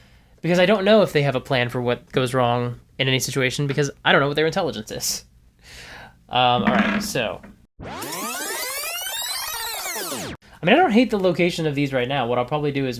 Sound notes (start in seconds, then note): 6.6 fast-forward sound effect